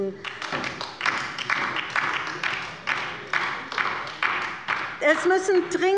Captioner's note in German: Beifall bei der LINKEN